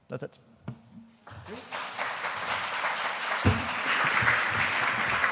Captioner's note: audience applauding